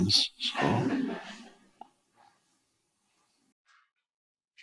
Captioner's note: audience laughing